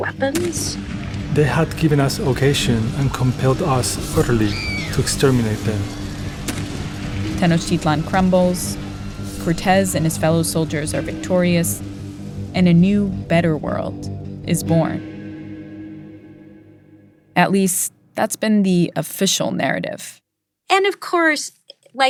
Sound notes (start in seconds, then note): 6.4 soundbite of gunfire